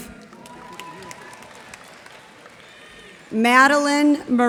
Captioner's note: cheers and applause